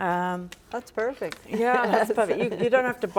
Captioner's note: chuckles